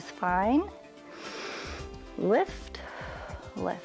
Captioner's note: inhales